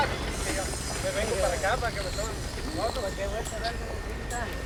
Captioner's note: construction workers speaking Spanish